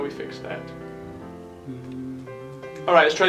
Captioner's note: hums